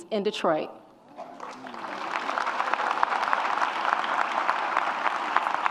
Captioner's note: audience applauds